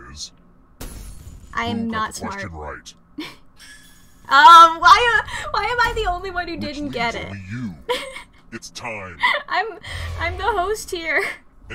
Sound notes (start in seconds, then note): 2.5 giggles; 9.2 through laughter